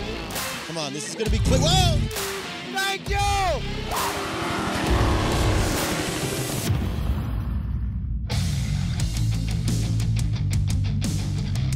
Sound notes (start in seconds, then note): 4.7 jetboat sounds